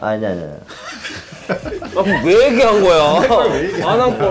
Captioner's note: laughing